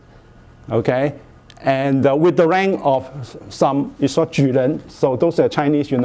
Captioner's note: speaking Chinese